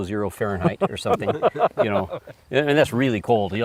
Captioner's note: laughter